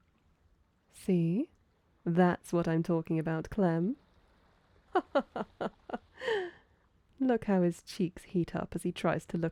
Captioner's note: laughing